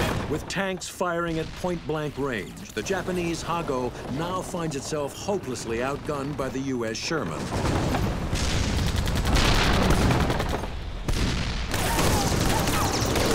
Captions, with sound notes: With tanks firing at point blank range, the Japanese Ha-Go now finds itself hopelessly outgunned by the US Sherman. (cannon shots exploding) (rapid gunfire exploding)